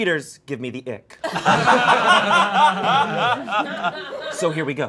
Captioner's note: all laughing